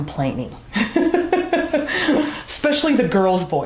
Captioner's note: laughs